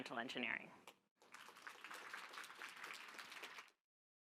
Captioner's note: applause